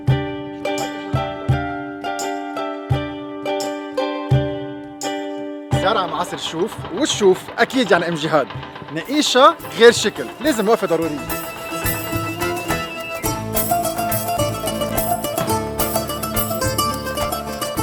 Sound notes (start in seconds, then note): 9.4 in Arabic